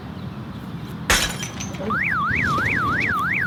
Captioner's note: sound of glass breaking then a car alarm ringing